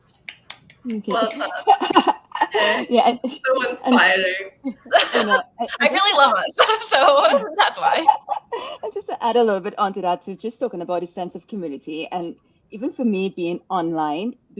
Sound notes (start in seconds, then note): 0.1 clapping; 0.9 laughing